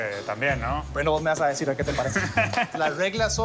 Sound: laughs

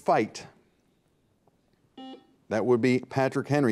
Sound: buzzer beeps

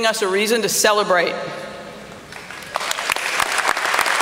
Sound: applause

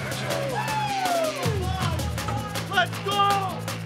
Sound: cheering

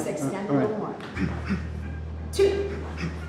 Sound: Tony grunting

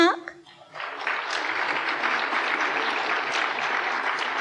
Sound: applause

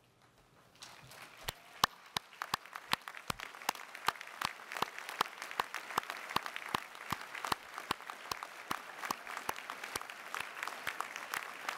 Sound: applause

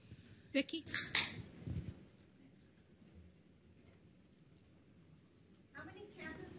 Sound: soda can opening

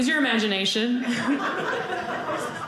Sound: audience laughing

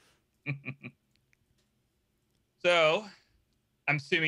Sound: laughing

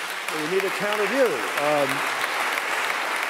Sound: applause

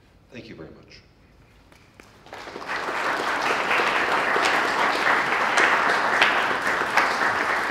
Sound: applause

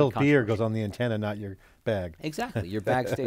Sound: laughs

